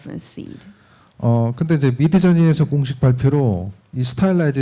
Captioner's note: speaking korean